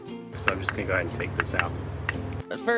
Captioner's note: tapping sounds